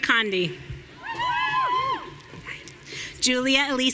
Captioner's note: audience cheering